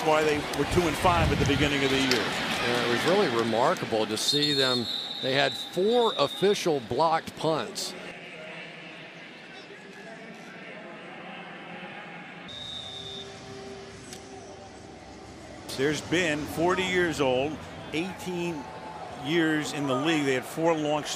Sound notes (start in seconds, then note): 8.4 pa announcement